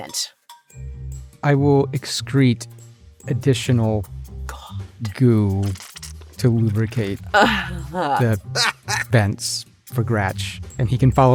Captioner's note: chuckle